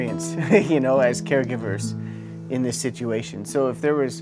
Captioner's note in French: rires